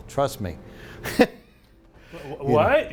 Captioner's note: laughing